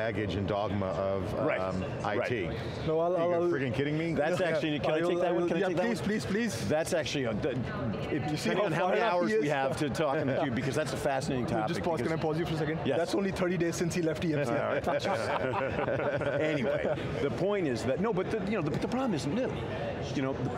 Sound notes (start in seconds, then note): 14.6 laughter